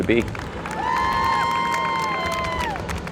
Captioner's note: applause